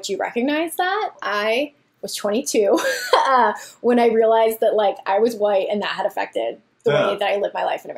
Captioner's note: laughs